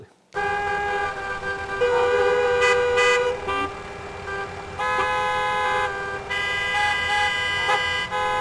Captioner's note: car noises